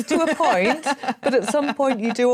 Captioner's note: laughing